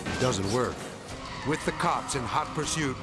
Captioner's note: vehicle skidding